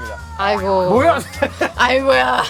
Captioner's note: gasps all around